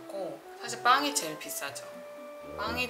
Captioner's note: crying